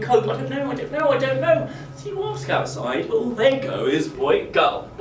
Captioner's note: none